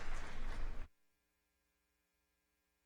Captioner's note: cheers and applause